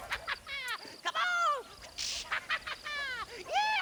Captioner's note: laughs